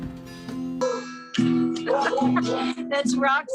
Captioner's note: dog barks